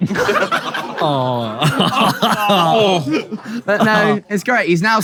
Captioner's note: people in room laughing and aww-ing